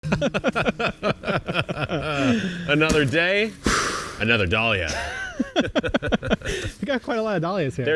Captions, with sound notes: (both laughing) - Another day, another dahlia. (both laughing) - We've got quite a lot of dahlias here.